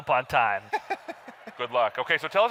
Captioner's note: laughs